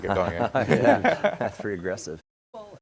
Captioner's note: panel chuckles